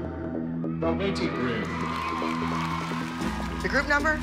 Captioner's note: crowd cheering